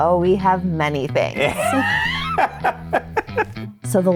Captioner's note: both laughing